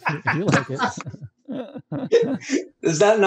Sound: chuckles

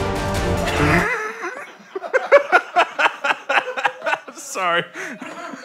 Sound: laughing

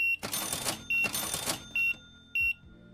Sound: beeping

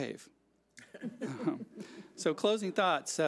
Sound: laughs

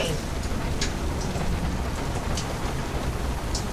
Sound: rain pounding

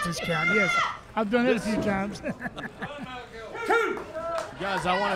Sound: chuckles

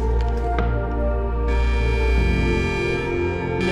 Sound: alarm siren

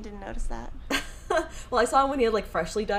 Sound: chuckles

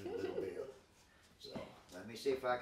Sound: chuckling

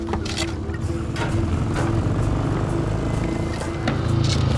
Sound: motorbike rumbling

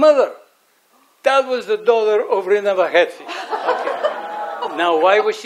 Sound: audience laughs

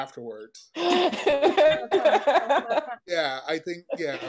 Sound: laughing

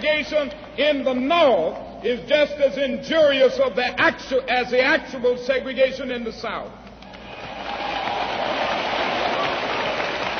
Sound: applause

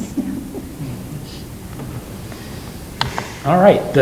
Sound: giggling

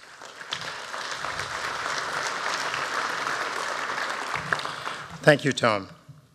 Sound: applause

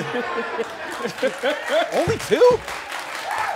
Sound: audience claps

